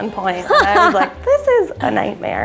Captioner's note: laughs